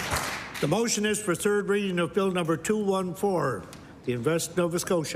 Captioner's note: applause